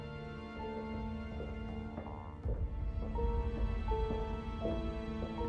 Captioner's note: footsteps clack